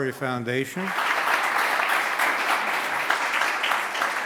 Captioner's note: audience claps